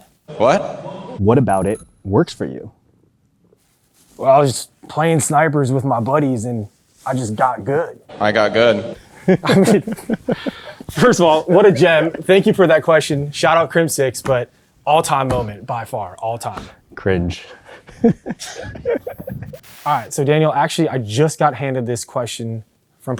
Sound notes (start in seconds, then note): 9.0 laughs; 17.5 laughs